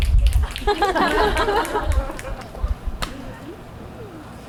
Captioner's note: fingers snapping; audience laughs